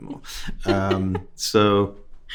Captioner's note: host laughing